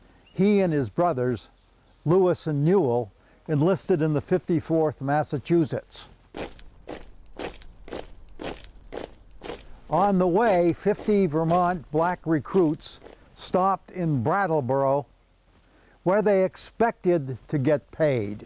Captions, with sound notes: he and his brothers, Louis and Newell, enlisted in the 54th Massachusetts. (marching) On the way, 50 Vermont black recruits stopped in Brattleboro where they expected to get paid.